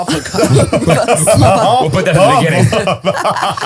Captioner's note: all laughing